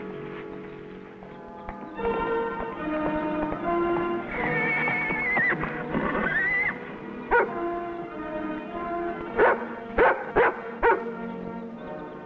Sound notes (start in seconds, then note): 4.2 Champion whinnies; 7.7 dog barks